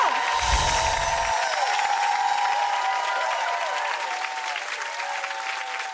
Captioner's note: audience cheering